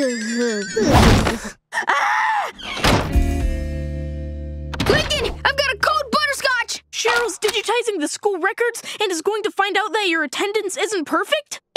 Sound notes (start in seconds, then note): 0.6 crashing; 1.8 screaming; 2.6 door slamming